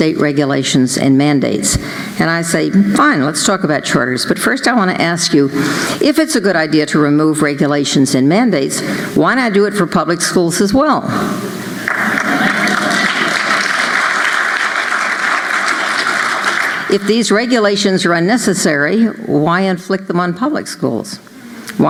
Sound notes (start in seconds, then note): 11.8 applause